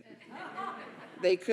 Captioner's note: audience laughing